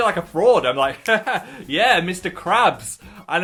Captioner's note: chuckles